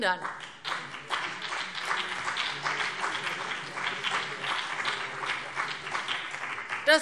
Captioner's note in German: Beifall BÜNDNIS 90/DIE GRÜNEN und vereinzelt CDU